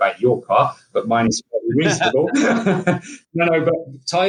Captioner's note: laughing